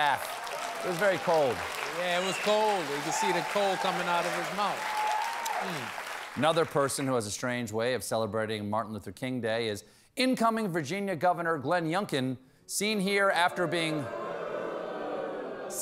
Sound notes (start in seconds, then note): 7.7 applause